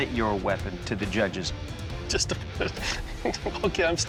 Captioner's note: laughing